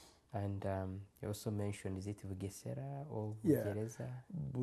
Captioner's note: non-english